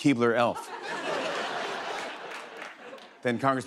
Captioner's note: laughter